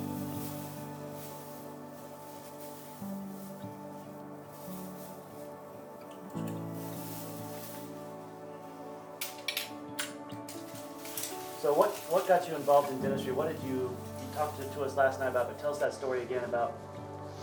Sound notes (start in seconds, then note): 0.0 footsteps; 0.0 plastic rustling